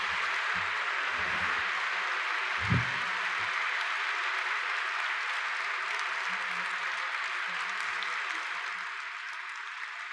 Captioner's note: applause